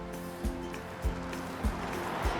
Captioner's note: claps